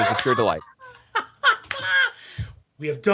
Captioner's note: laughing